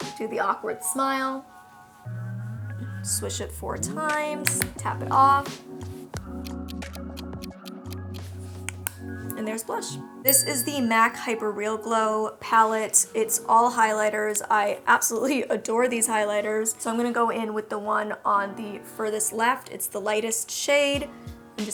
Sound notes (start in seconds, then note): 6.5 clock ticking